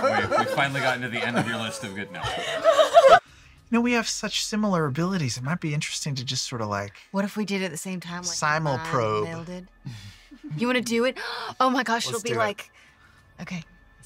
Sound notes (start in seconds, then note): 9.8 gasp